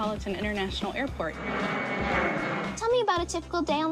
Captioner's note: airplane whizzing